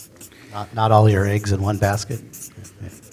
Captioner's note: pat